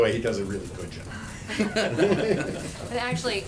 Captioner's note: laughter